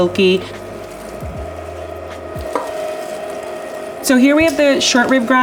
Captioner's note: grinder humming